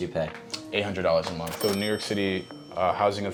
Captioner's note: cash register dinging